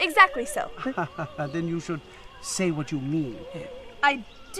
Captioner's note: laugh